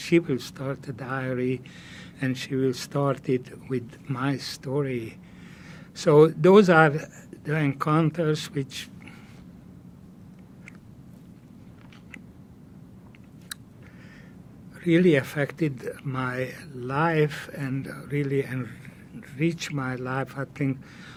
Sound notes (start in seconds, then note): 9.6 pauses 6 seconds